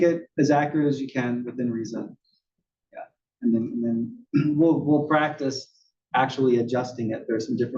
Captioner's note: cough